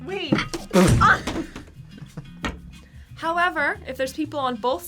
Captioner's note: both laugh